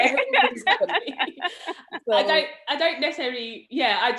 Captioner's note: laughs